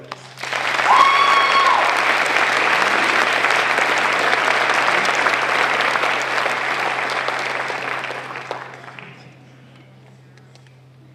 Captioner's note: applause